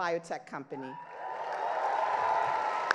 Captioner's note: crowd cheers; crowd applauds